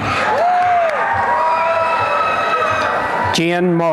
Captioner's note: applause and cheering